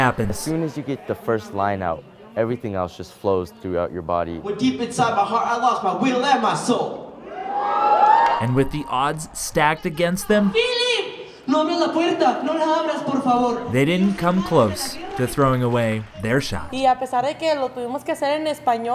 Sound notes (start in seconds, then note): 7.2 crowd cheers; 11.2 Spanish; 15.4 Spanish